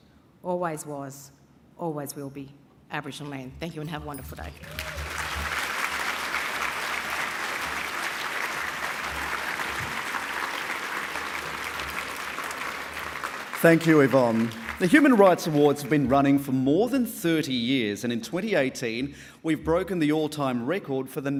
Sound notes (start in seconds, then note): 4.7 applause